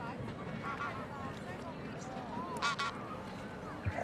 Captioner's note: geese honking